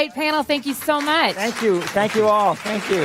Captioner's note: applause